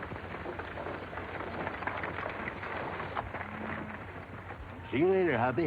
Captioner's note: wagon squeaking; horse tack jingling